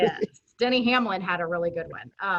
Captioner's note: laughing